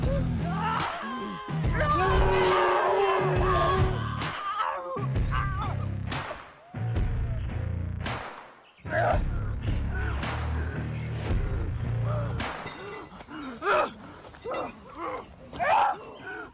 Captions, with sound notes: Ah! [Both scream] [Gasping] Uh... uh, uh, ah!